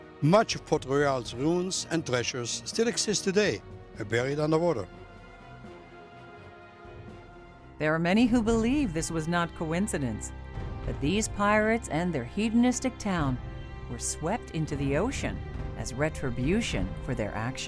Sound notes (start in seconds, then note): none